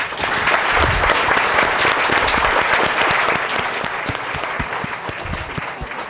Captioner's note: audience applause